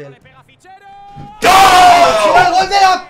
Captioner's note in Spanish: gritan